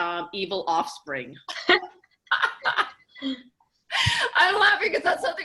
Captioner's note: laughing